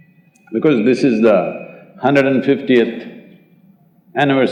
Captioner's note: none